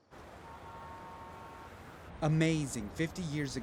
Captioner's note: traffic humming; horns honking